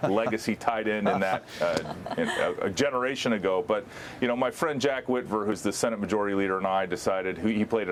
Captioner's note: laughter